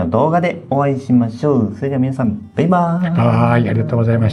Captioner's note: laughs